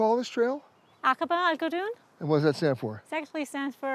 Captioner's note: speaking Arabic